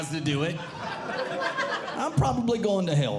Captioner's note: audience Laughing